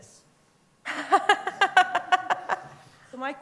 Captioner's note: laughter